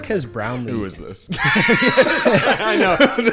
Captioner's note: all laughing